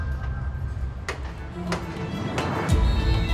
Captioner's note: hammering